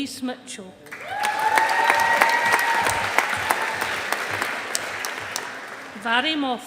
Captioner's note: audience applauding